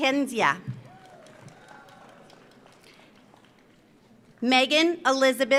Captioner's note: audience applauds